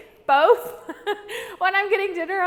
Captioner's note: laughing